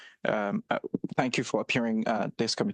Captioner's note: speaking French